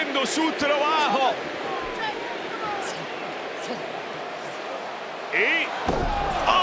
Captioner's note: applause